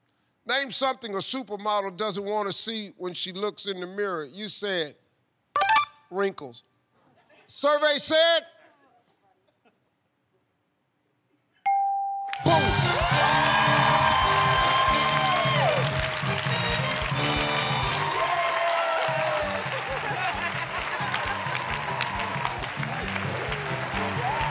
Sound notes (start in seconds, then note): 13.6 cheers and applause